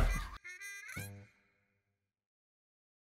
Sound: laughs; baby cooing

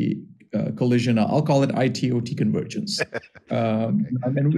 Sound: laughs

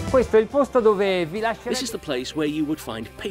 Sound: speaking Italian

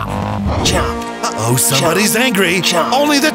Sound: roars; T-REX chomps

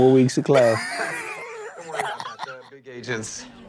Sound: laughs

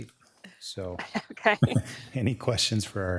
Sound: chuckling

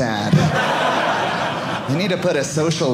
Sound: audience laughing

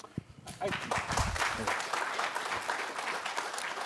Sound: applause

